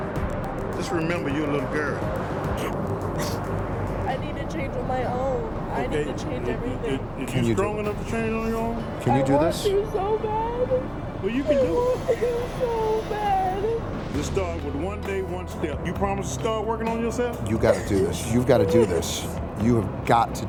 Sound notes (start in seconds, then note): 2.5 sobbing; 6.9 big Boom; 10.8 big Boom